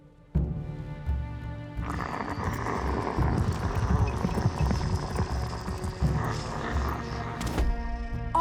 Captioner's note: grunting